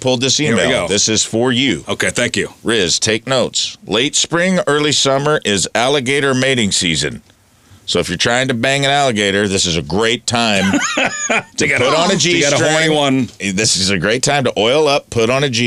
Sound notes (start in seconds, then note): 10.6 laughter